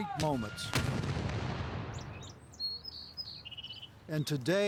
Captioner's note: canon fires